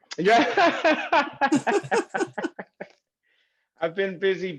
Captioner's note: laughs